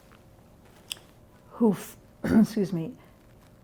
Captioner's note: clears throat